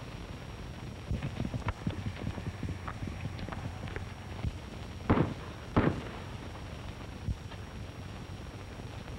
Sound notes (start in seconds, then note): 5.0 gunshots